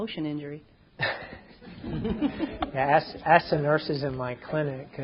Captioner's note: chuckles